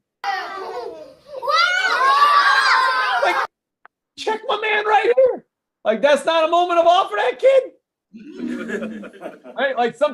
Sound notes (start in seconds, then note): 1.4 screaming